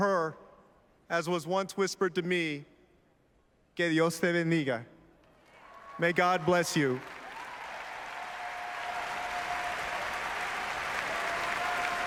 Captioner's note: applause